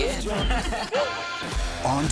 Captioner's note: laughter